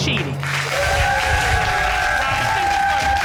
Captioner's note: cheers, applause